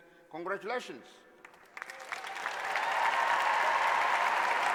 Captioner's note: applause